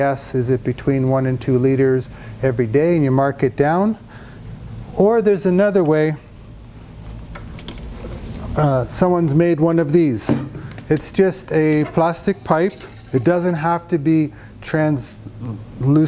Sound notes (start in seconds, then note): 11.6 pipe clunks